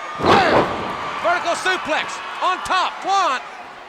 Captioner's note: wrestlers thudding on ring